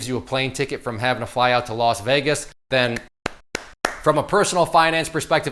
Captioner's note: clapping